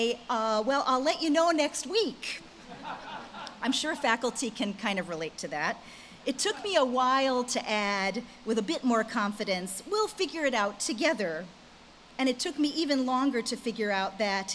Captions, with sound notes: "Well, I'll let you know next week!" (audience laughs) I'm sure faculty can kind of relate to that. It took me a while to add, with a bit more confidence, "We'll figure it out together." And it took me even longer to figure out that,